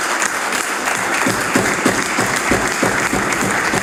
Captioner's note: some Applause